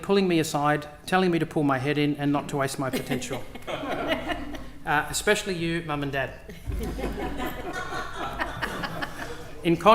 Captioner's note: laughter